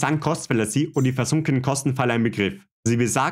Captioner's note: German